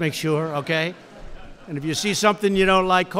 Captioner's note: laughter